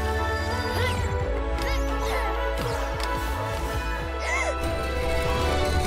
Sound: grunting, then gasps

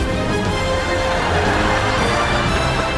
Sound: laughing

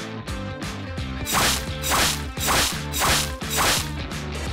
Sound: machete whacking

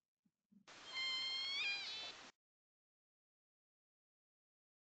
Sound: whale whines

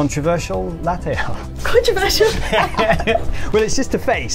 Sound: laughs

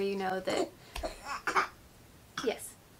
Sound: baby coughs

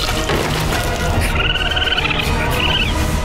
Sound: chittering

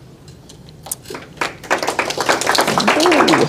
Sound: attendees applauding

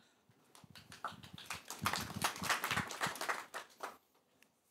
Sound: applause

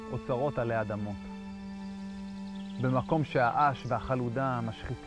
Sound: speaking foreign language

